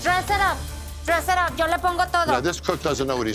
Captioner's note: speaking spanish